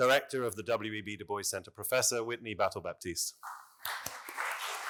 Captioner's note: appluse